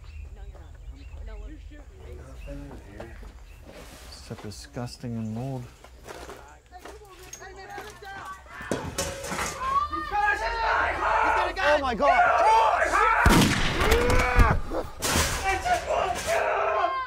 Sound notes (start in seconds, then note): 0.1 more arguing outside; 7.2 screaming escalates outside; 13.2 gunshot; 15.0 clang/crash